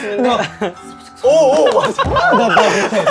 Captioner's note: rustle, rustle